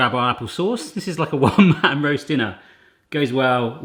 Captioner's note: laughs